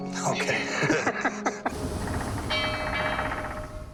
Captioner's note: laughs